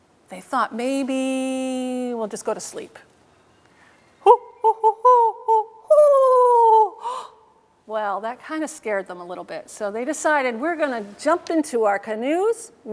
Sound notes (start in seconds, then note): 7.0 gasps